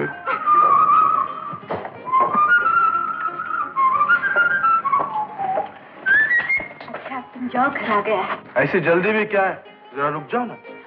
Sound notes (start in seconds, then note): 0.2 whistles